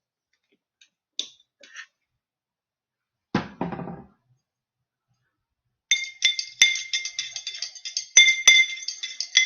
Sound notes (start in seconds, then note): 5.9 stirring